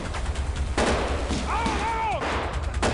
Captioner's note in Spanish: Disparos